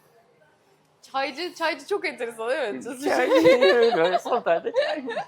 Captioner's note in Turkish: kahkaha